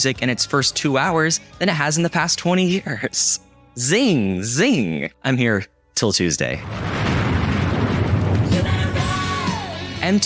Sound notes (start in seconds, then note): 6.5 bomb exploding; 8.9 rock music